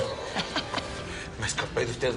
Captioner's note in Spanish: Risas